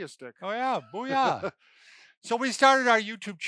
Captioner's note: laughs